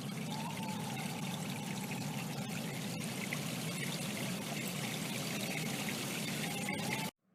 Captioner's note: stream running, distant sirens